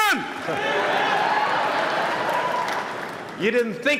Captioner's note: applause